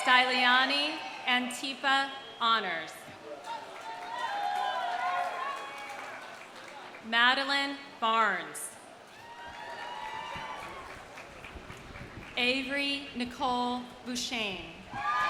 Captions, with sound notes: Styliani Antypa, honors. (audience cheering) (audience applauding) Madeline Barnes. (audience cheers) (audience applauds) Avery Nicole Beauchaine.